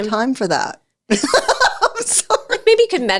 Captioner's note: laughs